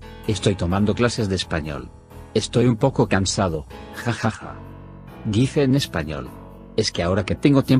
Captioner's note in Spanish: dice en espanol